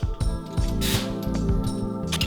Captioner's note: air hissing